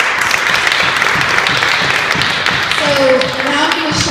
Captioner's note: clapping from audience